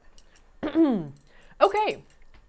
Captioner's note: throat clearing